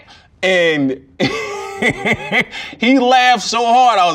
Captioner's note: laughs